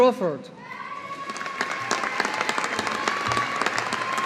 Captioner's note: audience applauding